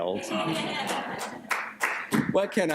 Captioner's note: laughter